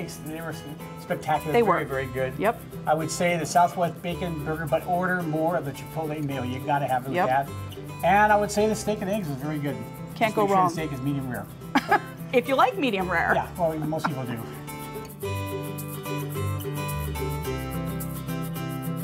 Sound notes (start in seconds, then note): 11.7 laughs; 14.5 upbeat guitar music